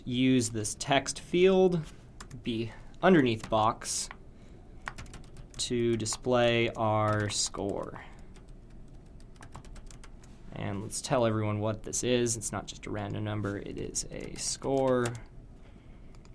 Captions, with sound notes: Let's just use this text field, the underneath box to display our score. [Typing Noises] And let's tell everyone what this is, it's not just a random number it is a score,